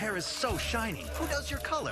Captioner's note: scoff